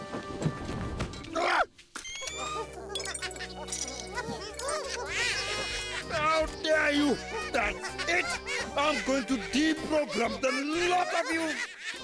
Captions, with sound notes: Argh! (Bongolalas chuckling) How dare you? That's it! I'm going to deprogram the lot of you!